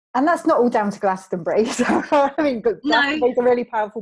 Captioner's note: laughs